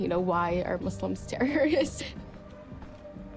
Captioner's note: laughs